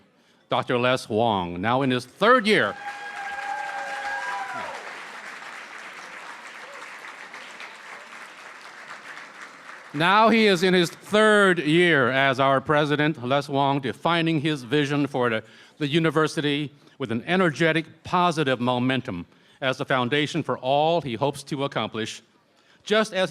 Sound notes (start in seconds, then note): 4.4 cheering & Applause